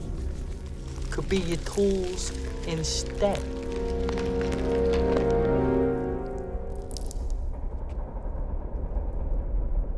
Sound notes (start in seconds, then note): 4.5 ice cracking; 6.6 water dripping